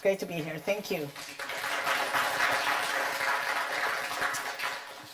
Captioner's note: audience clapping